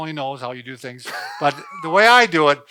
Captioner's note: man laughs